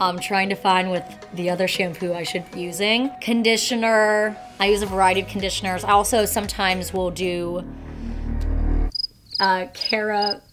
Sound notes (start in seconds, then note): 8.9 crickets chirping